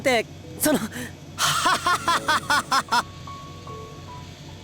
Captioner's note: laugh